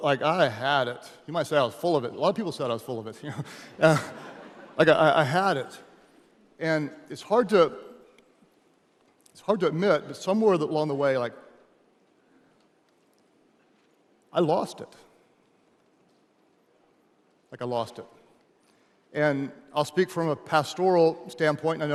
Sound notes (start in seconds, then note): 3.7 audience laughing; 3.8 laughs